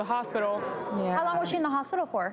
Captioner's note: audience oohs